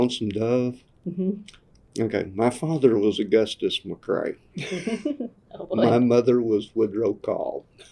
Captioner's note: laughter